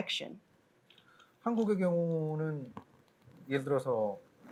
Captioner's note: speaking korean